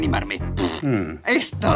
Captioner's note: blows raspberry